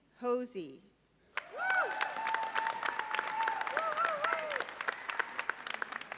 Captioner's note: audience cheers and applauds